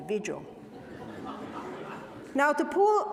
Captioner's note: audience laughing